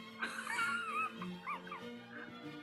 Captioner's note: sniggering